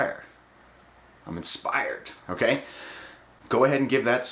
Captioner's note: breathing